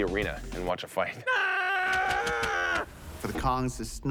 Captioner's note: shouting